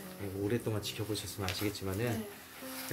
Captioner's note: none